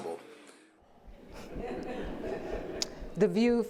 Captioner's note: audience laughing